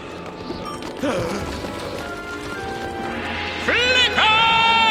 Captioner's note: grunting; gasping